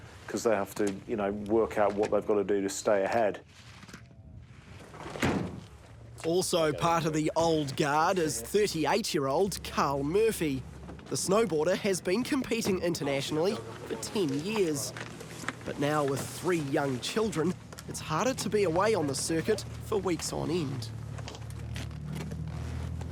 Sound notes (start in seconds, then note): 5.0 thud!